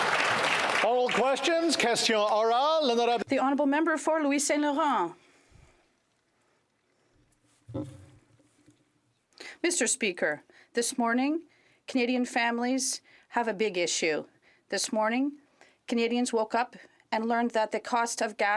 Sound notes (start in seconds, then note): 0.0 some Applause; 7.9 speaking French